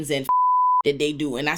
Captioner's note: beep